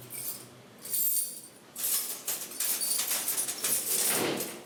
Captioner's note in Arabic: صوت المفاتيح